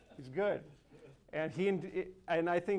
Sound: audience laughs

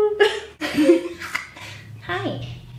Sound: laughing

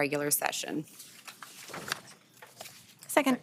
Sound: page fluttering

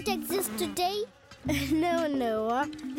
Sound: chuckles

